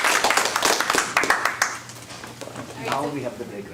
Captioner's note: applause